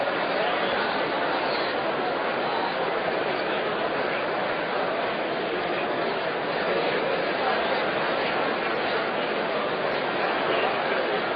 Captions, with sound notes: [RANDOM CROWD NOISE] 204 00:25:06,000 --> 00:25:05,999 /[APPLAUSE] 205 00:25:06,000 --> 00:25:05,999 [APPLAUSE]